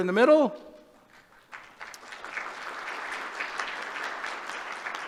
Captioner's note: applause